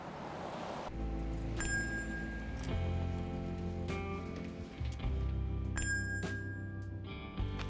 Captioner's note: solemn music; shop bell rings